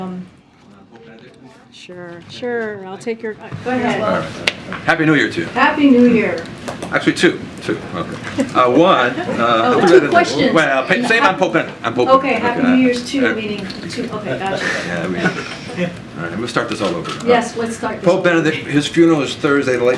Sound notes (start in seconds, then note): 9.0 laughter